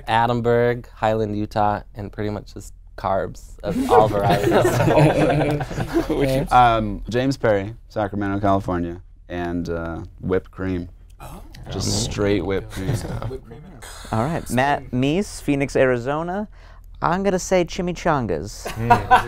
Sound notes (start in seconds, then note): 3.8 laughing